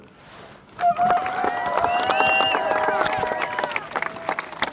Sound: crowd cheers

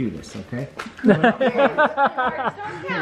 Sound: laughing

